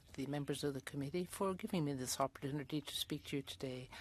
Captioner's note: speaking French